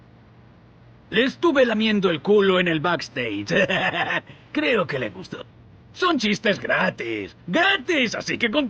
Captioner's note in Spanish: risas